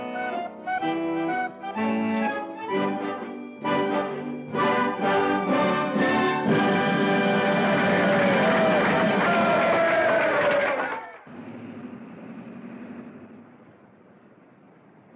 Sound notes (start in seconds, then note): 3.6 upbeat orchestral music; 6.4 audience applauding and cheering; 11.2 car rumbles past